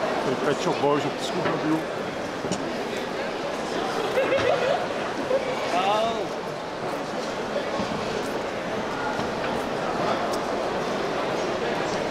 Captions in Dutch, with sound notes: De Pet Shop Boys op het scootmobiel. [GELACH] O.